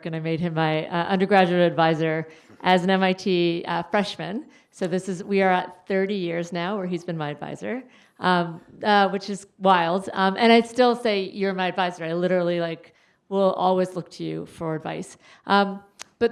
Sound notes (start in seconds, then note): none